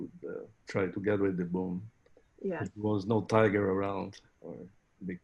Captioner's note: laughing